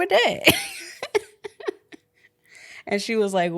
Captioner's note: laughs